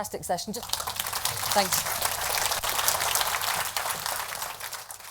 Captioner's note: applause